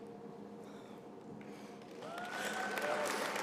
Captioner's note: applause